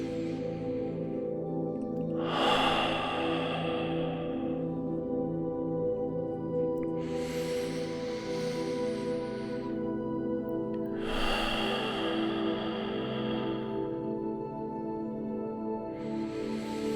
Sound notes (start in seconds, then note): 2.1 breathing